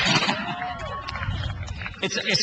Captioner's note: laughs